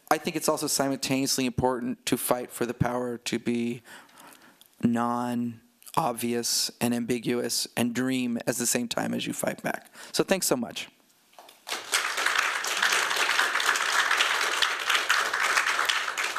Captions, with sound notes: I think it's also simultaneously important to fight for the power to be non-obvious and ambiguous and dream at the same time as you fight back. So thanks so much. [APPLAUSE]